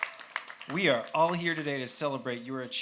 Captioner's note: cheers